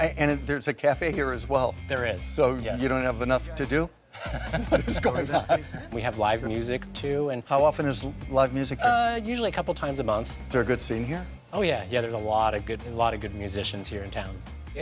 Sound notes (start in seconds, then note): 4.1 laughing